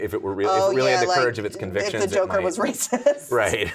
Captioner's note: laughing